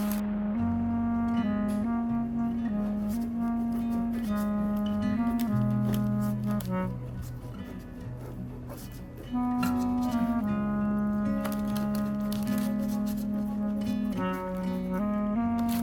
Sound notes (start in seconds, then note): 6.8 laughs